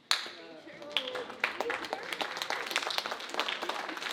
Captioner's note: audience applauding